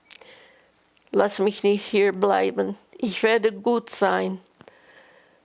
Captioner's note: german